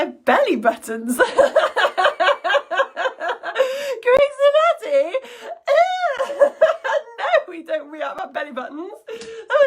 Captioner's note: laughs